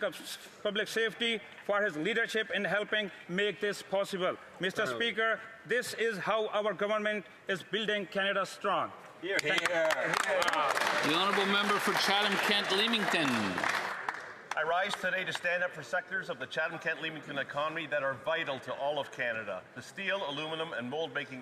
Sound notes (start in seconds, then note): 15.3 some Applause